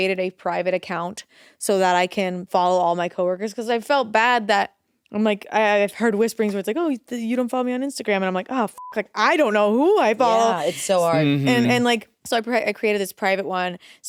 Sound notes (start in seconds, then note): 8.7 beep